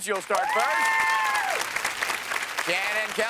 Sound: cheers and applause

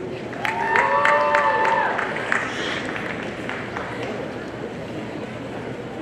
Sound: audience cheering and applauding

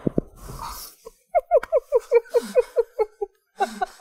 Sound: laughs

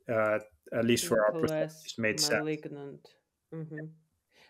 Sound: audio breaking

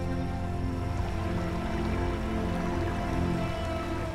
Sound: water trickles

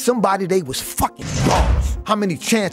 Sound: bars slamming

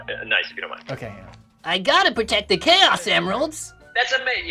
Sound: whiny cartoon voice

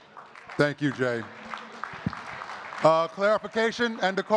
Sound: audience clapping

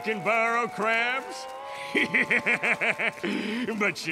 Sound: laughing

